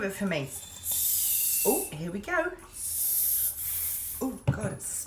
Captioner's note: air hissing